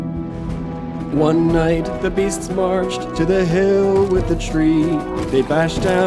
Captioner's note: thunder